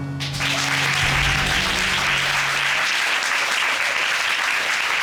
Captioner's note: applause